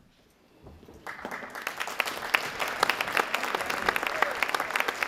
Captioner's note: audience applauding